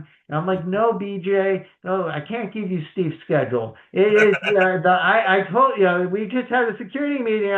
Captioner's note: laughs